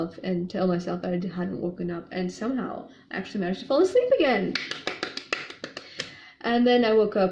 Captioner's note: claps enthusiastically